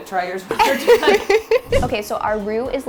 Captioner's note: laughing